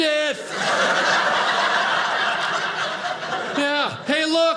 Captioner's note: audience laughing